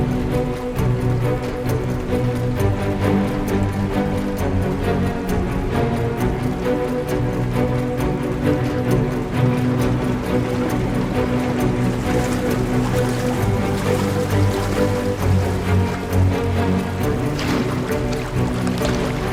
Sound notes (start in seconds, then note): 1.3 suspenseful music continues; 1.3 water cascading